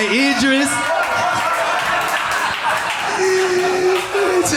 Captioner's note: audience laughing